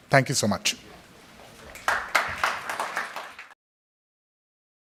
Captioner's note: crowd applauding